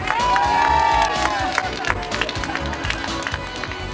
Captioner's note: cheering and applause